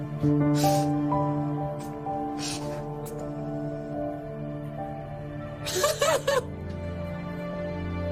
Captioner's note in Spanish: Sollozos